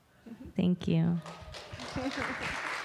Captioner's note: applause